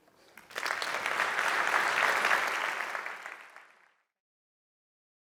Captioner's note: audience applauding